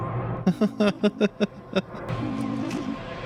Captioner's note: laughing